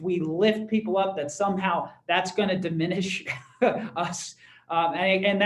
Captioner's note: laughter